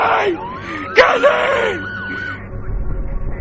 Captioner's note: sirens growing louder